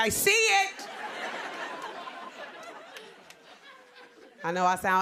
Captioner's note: laughter